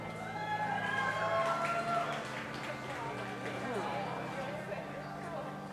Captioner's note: audience applauding and cheering